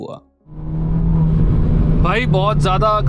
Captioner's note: car revving